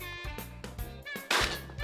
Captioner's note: gun shot